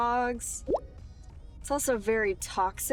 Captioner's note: text bubble pops